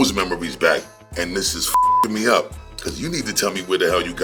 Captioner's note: beep